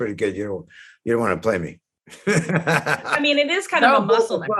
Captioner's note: laughs